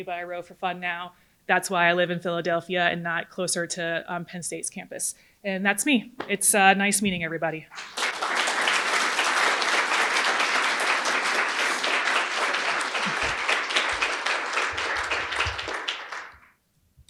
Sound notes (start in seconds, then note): 7.7 audience applauding